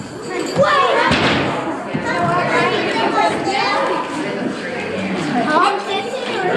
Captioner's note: crowd chatter